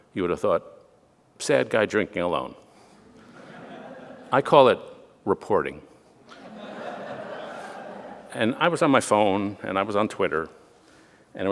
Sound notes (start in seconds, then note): 3.0 audience laughing; 6.2 audience laughing